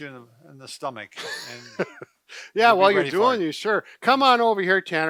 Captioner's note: laughs